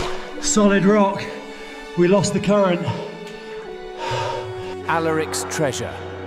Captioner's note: breathes heavily